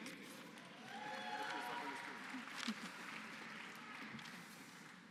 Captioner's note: applause